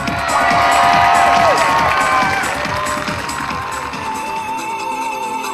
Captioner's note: audience cheering and applauding; upbeat music